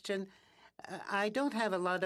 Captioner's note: speaking in French